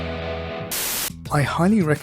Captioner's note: TV Static